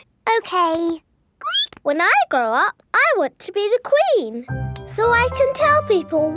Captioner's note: squeaks